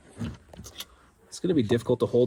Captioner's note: panel rattling